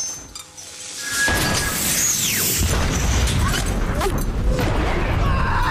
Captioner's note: clink; blast; screaming